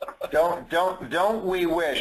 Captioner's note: laughter